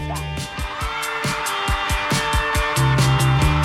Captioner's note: cheering